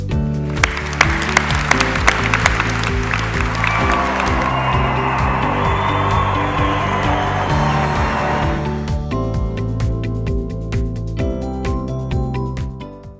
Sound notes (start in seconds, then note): 0.5 clapping; 2.6 cheering